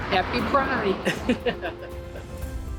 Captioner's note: laughs